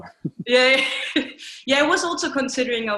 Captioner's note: laughs